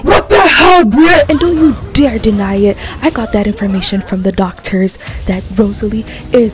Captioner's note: collective gasps